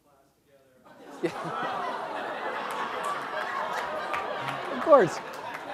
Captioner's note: laugh